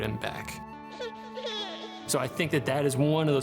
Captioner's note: baby sobbing